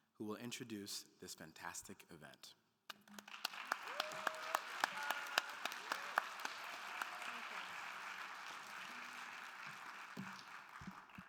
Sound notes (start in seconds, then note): 3.1 audience cheering; 3.1 everyone applauding